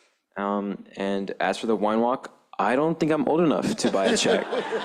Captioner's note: laughter